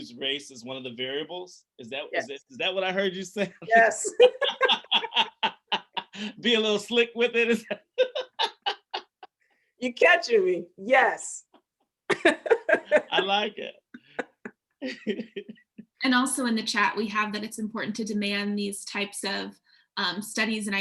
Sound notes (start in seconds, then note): 12.1 laughter